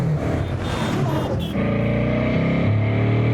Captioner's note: horns honking